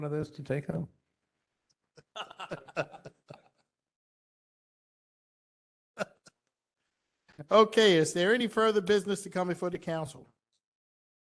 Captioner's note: laughter